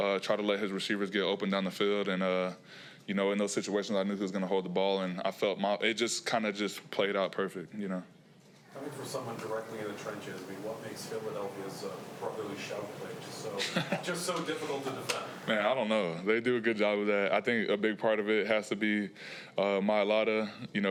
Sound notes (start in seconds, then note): 13.5 Leonard laughs